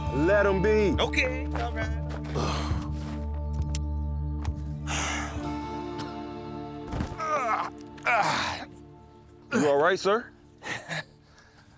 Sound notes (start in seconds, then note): 2.3 grunts; 7.0 groans